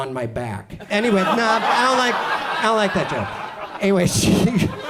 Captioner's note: audience groans